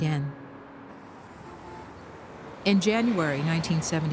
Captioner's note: horns honking